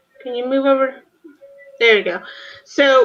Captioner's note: none